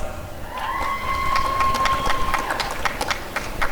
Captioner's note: applause and cheering